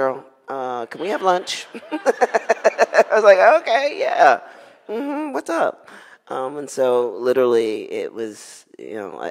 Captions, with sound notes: "Cheryl, can we have lunch?" (laughing) I was like, okay, yeah, mm-hmm, what's up? And so literally it was,